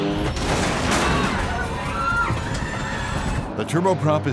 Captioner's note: airplane engine roaring; airplane crashing; passengers screaming